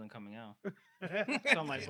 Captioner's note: laughing